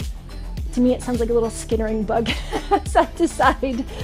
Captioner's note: upbeat music; laughs